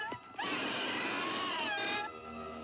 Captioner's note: bird squawking; cackling; bird squawking; ominous music